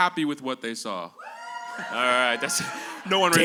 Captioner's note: cheers and applause